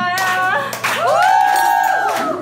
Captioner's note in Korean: 환호성